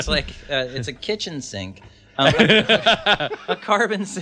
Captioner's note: laughs; laughs